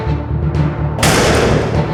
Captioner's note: door slams shut